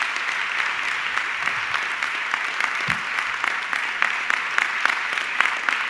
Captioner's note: audience clapping continues